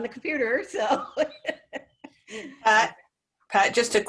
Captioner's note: laughs